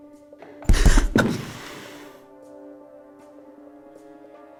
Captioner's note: Emily gasps